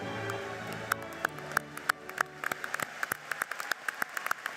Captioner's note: applauding